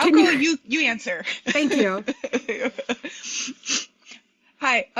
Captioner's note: laughter